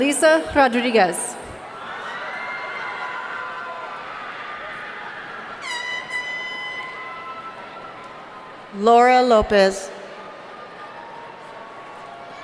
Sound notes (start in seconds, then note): 5.6 horn honking